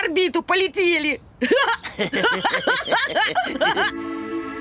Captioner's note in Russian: Смех